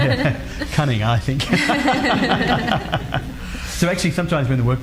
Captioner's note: laughing; laughs